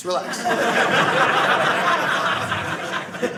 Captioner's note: audience laughing